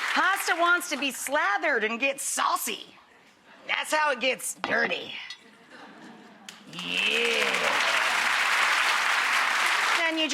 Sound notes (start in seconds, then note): 5.5 audience chuckling; 6.6 audience applauding